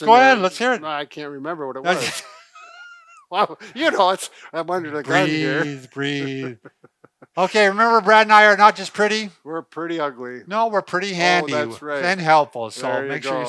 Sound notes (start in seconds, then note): 1.9 laughing